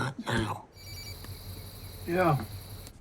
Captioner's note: phone rings